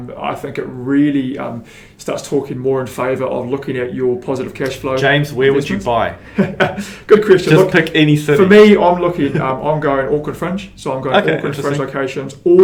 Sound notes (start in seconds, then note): 6.2 laughs